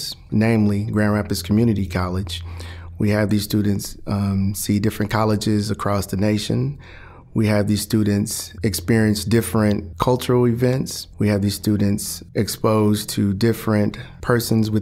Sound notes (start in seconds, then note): none